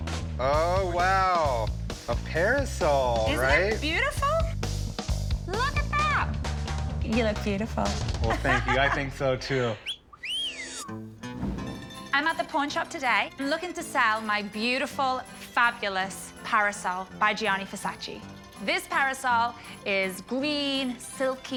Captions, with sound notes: - Oh, wow! A parasol, right? - Isn't it beautiful? Look at that! You look beautiful. - Well, thank you. I think so too. [whistles] - I'm at the pawn shop today looking to sell my beautiful, fabulous parasol by Gianni Versace. This parasol is green, silky.